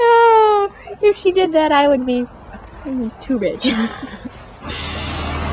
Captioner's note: laughs